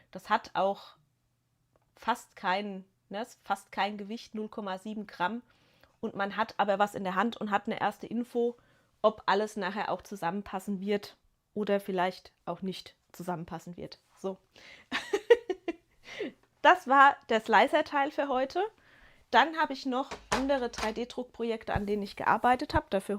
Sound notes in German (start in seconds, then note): 14.9 gelächter